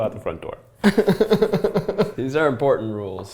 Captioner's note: laughing